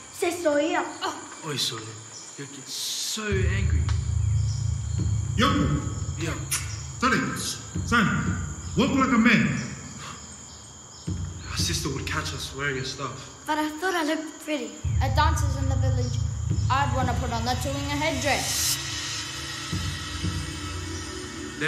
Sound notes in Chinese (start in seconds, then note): 0.1 非英文对话; 5.3 大喊